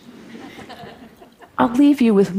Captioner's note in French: Rires